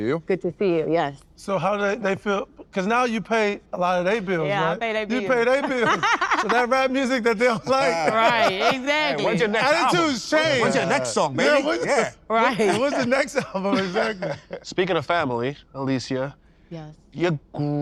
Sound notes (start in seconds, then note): 8.1 laughs